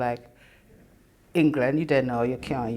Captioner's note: uses Jamaican accent